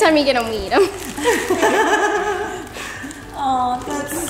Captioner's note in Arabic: يضحك